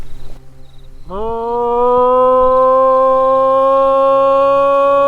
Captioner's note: calling out